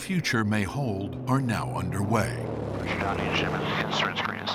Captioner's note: radio chatter